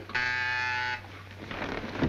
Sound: buzzer ringing

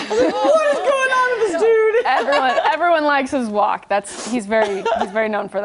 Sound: laughter

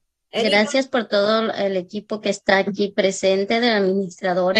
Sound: speaking Spanish

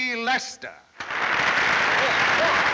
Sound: audience cheering

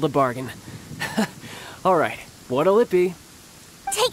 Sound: chuckle

